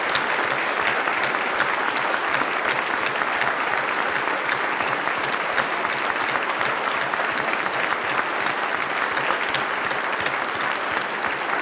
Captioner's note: applause